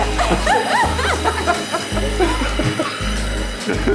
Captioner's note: everyone laughing